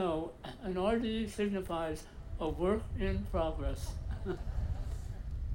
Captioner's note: chuckles